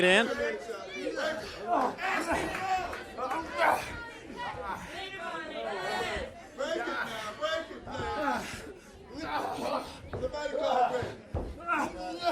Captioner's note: crowd chatter